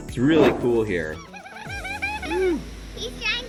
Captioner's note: girl laughing